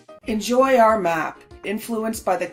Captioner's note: none